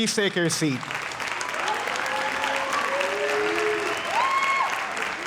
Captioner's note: audience applauding